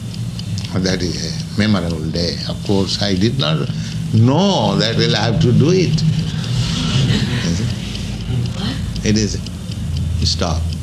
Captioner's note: laughter